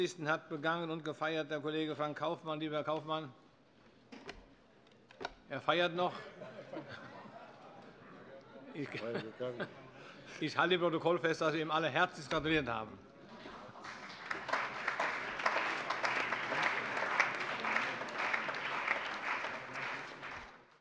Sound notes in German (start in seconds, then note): 13.7 Allgemeiner Beifall